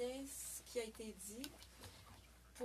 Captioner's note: speaking French